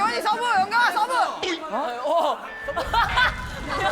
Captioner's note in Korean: 웃음소리